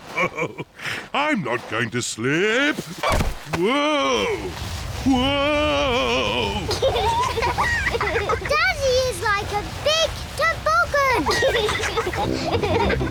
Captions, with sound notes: (CHUCKLES) I'm not going to slip... Whoa! Whoa! -(BOTH GIGGLE) -Daddy is like a big toboggan!